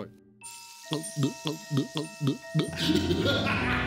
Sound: gulping loudly; laughing

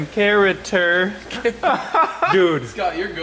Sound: laughter

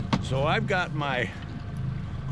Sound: boat engine idling

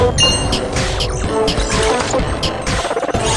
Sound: mech noises

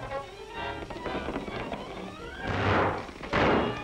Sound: gunshots

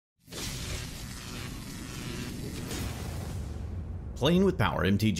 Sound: neon lights sizzling

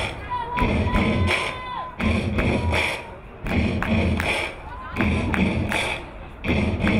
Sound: crowd cheering; crowd applauding; rhythmic clapping

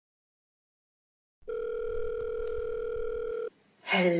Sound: phone ringing

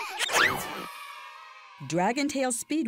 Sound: children giggling; children cheering

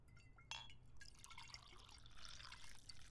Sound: wine pouring

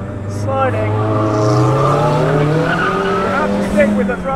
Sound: car engine revs

